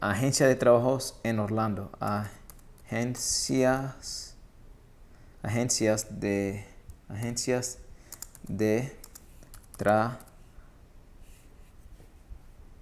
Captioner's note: typing